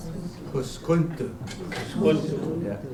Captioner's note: non-english